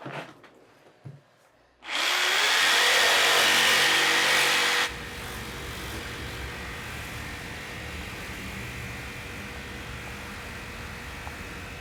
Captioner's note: saw running